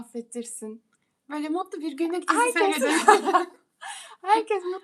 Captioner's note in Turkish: kahkaha